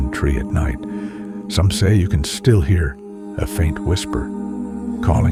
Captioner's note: a faint whisper